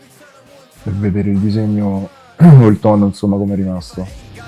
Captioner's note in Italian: schiarire la voce